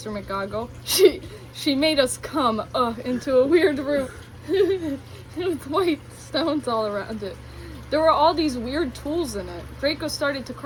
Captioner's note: moans